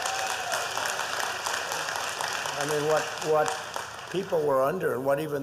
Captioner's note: applause